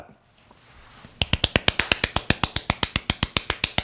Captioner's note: claps hands